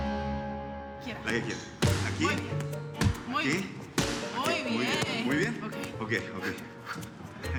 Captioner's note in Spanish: Golpes